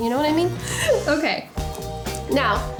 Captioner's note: laughing